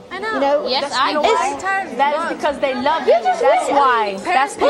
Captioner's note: overlapping chatter